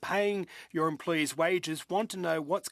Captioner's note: speaking French